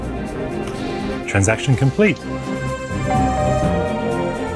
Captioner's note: doorbell rings